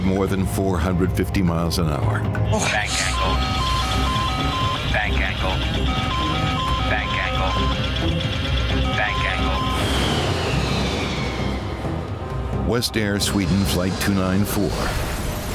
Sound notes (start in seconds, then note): 2.2 alarm beeping; 3.2 recorded Voice; 9.9 airplane engine roaring; 15.3 airplane crashing